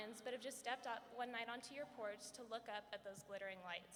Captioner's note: none